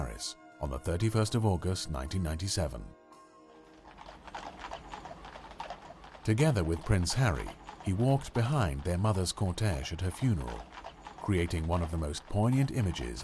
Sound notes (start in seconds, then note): 3.2 horses' hooves clomping